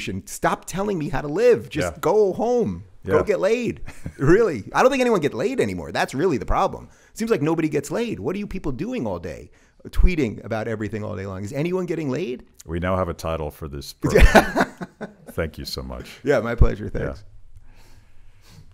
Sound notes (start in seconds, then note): 14.0 laughs